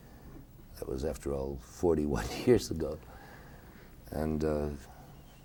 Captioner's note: chuckling